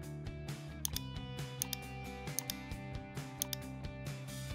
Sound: gentle upbeat music; mouse clicking

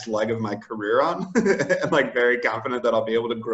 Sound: laughs

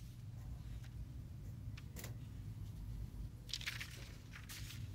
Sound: video whirring

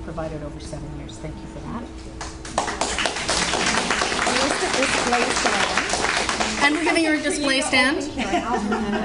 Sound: audience Applauds

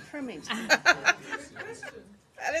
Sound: laughter

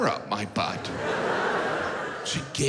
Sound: audience laughs

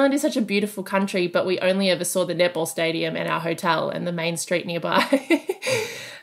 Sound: laughing

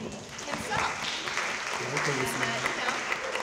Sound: audience clapping

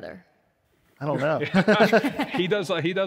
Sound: both laugh

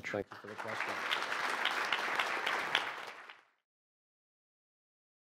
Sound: audience applauding

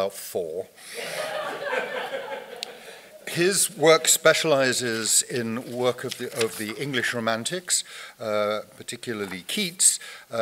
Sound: audience laughter

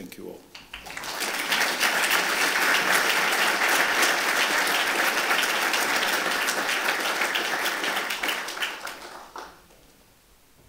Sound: applause

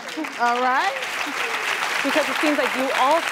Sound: applause

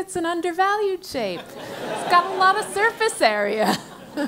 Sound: laugh

